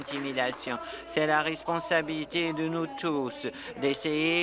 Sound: applause

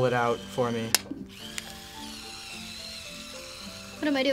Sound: film whirs inside

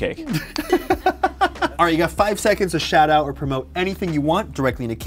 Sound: laughs

